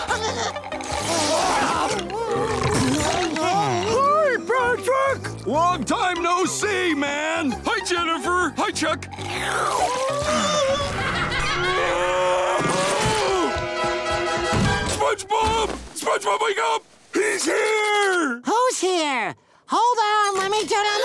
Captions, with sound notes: [belching] Hi, Patrick. Long time, no see, man. Hi, Jennifer. Hi, Chuck. [laughing] [groaning] SpongeBob. SpongeBob, wake up. He's here! Who's here? Hold on. Let me turn the-